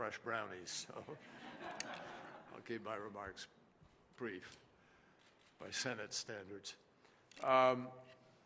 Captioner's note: laughter